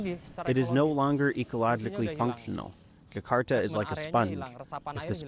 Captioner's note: through translator